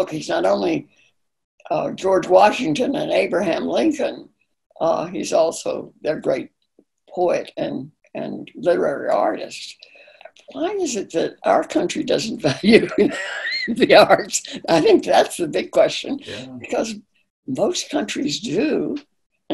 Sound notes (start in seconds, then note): 12.8 laughing